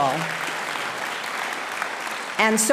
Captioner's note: audience applauding